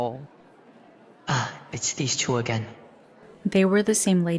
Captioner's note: sighs